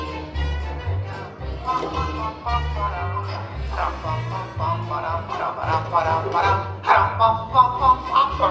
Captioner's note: Gonzo humming along